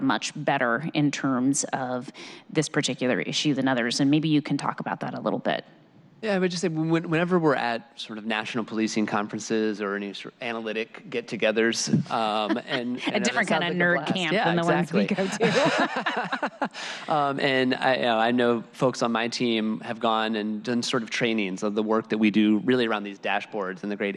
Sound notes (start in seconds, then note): 11.9 laughter